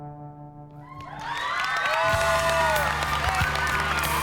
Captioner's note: applause